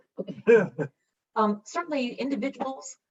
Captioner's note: laughing